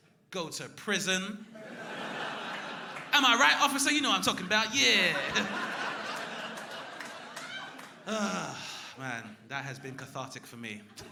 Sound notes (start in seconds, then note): 8.0 crowd laughing